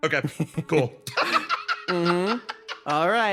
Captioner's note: laugh